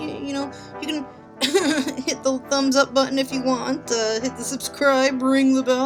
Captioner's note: cough